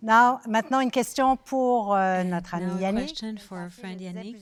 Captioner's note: speaking French